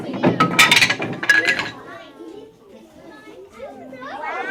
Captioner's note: blocks clattering